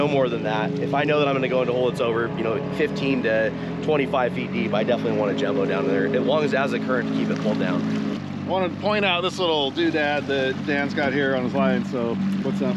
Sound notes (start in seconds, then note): 8.8 boat engine running